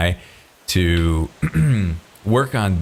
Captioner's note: clears throat